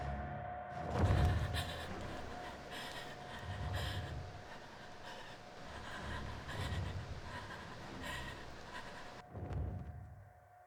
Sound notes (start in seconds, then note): 0.9 Connie sobs; 1.0 feathers flaps